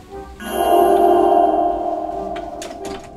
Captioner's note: magical ZING